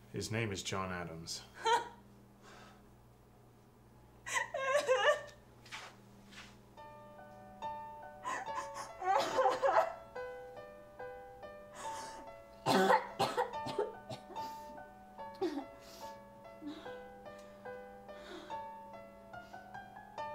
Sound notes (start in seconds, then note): 2.1 a laugh turns into a sob as they're apt to do; 6.1 more sobbing; 12.6 the sobbing turns into sad little coughs